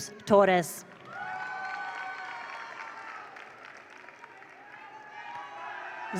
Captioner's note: attendees applaud; attendees cheer